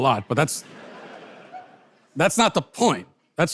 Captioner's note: audience laughter